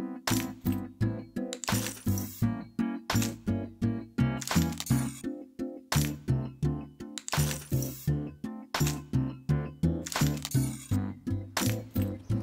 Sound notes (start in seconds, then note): none